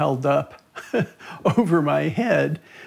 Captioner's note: chuckles